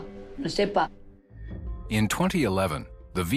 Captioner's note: narrator in English